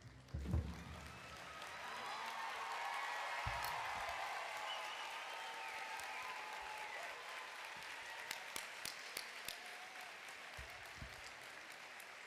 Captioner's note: applause